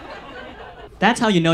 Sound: audience laughs

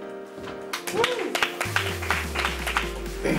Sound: applause

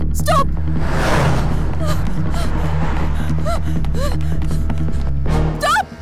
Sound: heavy breath sound

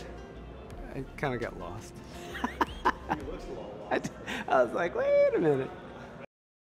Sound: laughter

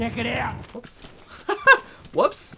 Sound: nervous laughter

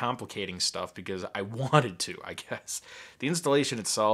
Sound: laughing

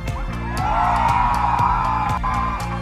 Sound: cheering

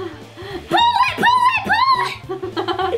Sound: yelps

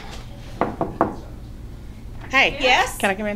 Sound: knuckles knocking

